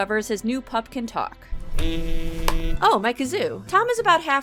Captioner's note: bzzzz